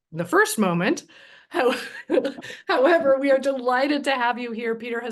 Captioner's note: laughs